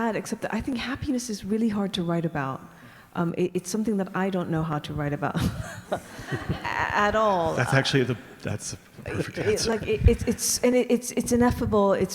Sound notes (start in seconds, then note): 7.4 audience laughing